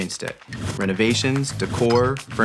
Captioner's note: air whooshing